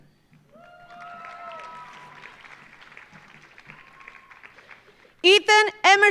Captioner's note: audience cheering; audience applauding